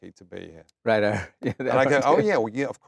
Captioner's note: laughs